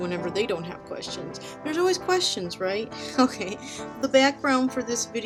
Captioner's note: giggles